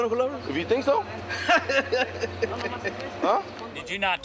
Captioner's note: laughs